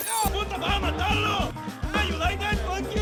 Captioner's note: shouting incoherently